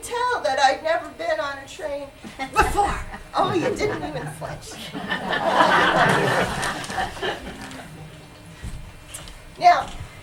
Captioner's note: laughter